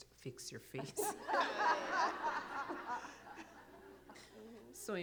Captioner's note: laughter